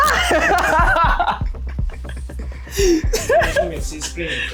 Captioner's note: laughing